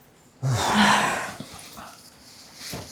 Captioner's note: loud sighs